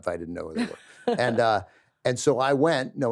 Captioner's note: laughs